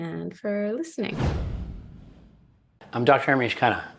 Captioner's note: air whooshing